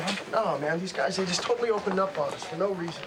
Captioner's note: none